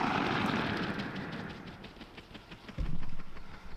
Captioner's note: rifle bangs